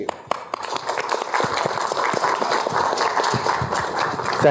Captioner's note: applause